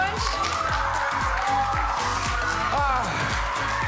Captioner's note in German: Jubel